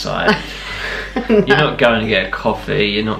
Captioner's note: laughing